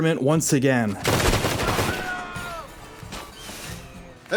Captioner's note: gunshots; screaming